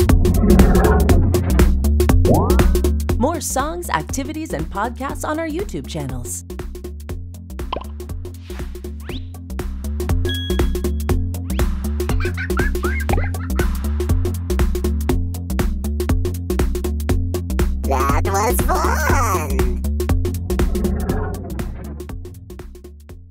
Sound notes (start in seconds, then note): 12.1 laughter